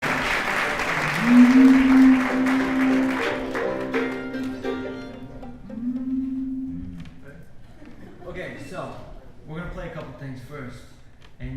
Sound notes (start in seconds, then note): 0.0 audience applauding; 1.1 mandolin playing